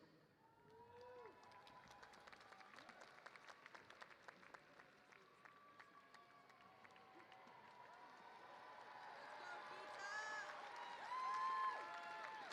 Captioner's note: cheers